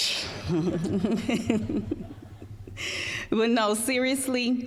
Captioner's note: all laughing